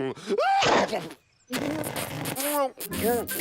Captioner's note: lips puckering